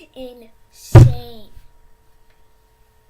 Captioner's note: with all his might then hits the desk making a *SLAM* noise